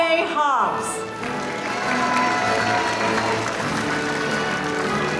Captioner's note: audience applauding